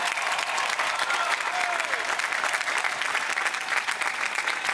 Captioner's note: applause